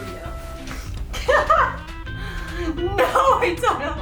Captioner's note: laughing